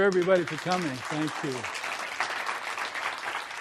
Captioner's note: applause